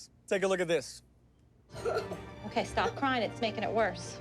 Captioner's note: crying